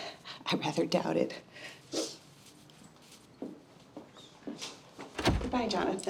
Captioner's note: sniffling